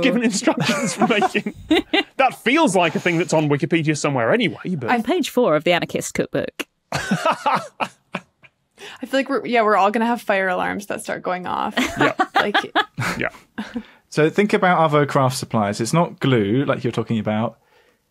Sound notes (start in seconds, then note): 0.1 laugh; 6.9 laughs heartily; 12.7 cackles